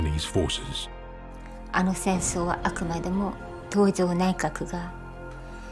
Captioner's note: speaking in Japanese